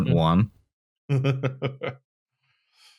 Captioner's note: chuckles